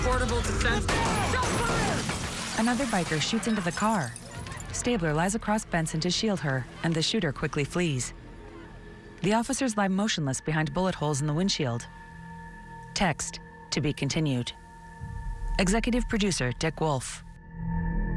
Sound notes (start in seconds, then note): 0.8 gunfire; 2.3 crowd commotion